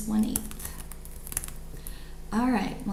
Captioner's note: keyboard clicks